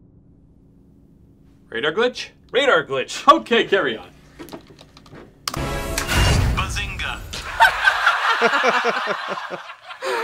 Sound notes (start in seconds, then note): 4.4 fingers clicking; 4.4 typing; 7.4 laughing